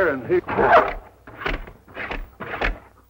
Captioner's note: barking